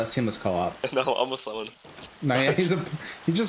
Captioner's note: laughing